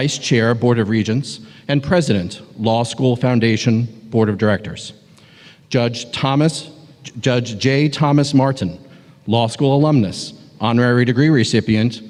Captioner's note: audio echoing